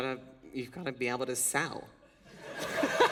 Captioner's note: laughter